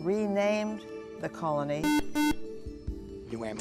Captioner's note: buzzer